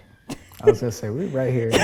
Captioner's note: laughs